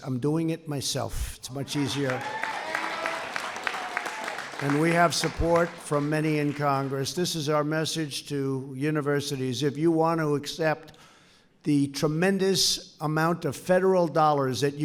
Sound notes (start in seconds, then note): 1.6 applause